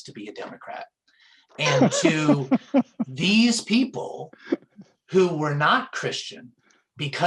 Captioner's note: laughter